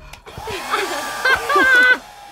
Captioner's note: blow dryer noise; laughter